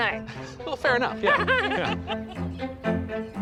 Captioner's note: laughs